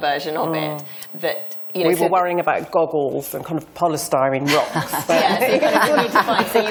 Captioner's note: laughter